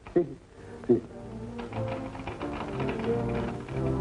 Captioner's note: loud clicking